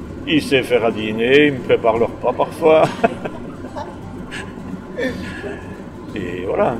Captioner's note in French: rires